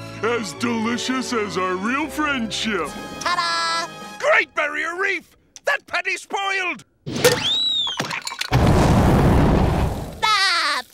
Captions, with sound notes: As delicious as a real friendship. Ta-da! Great barrier reef! That patty’s spoiled! [flames burning] [laughing]